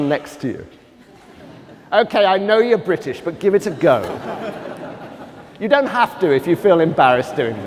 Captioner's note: laughter